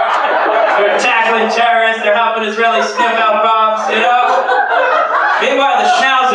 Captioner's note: laughter